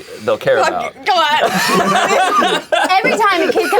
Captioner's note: all laughing